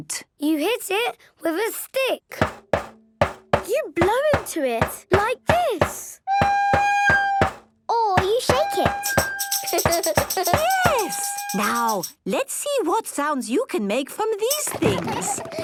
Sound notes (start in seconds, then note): 6.4 recorder note plays; 8.2 rattling